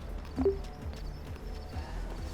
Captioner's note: phone chimes